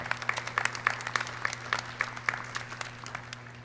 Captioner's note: clapping